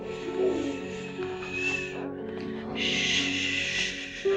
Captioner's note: Alicia shushing